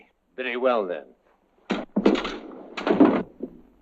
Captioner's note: swords clanking; body thud